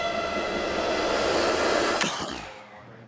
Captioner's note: click; coughs